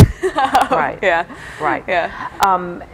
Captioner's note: laughs